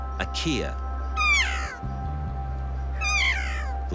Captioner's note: kea calling